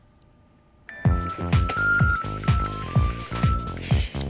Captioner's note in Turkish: Telefon çalıyor